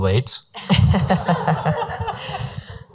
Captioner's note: laughing